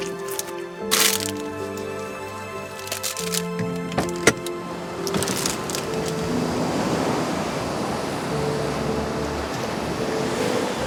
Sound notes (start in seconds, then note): 3.1 door clicks; 5.3 waves distantly crashing